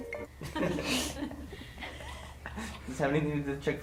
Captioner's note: laughter